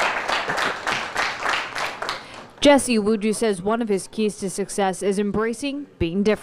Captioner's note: applause